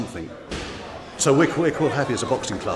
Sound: crowd shouting

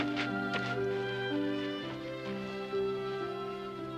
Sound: book thuds

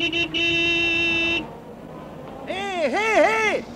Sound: horn blares

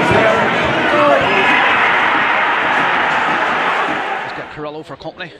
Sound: crowd celebrates

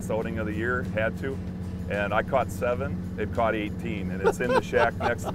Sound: laughing

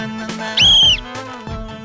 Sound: whistle

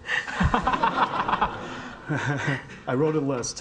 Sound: audience laughing

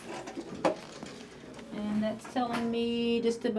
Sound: weigh scale clanks

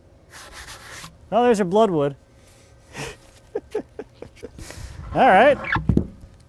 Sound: chuckles

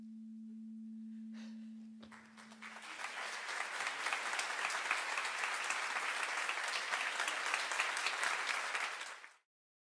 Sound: breathes out, which is caught by the microphone. The audience applauds

